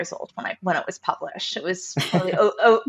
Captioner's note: laughs